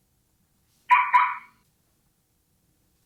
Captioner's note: chirp sound